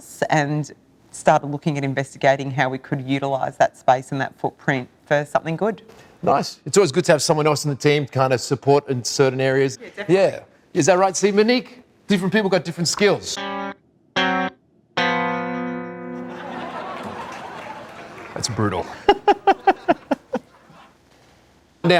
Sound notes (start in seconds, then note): 16.2 audience laughing and applauding; 20.1 laughing